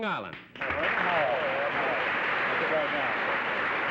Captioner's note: applause